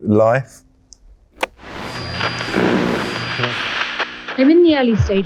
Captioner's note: radio buzzing; button clicks